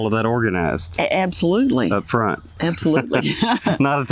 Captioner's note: laughs